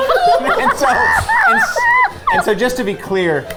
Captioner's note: group laughing